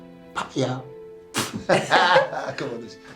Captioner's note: laughs; softly chattering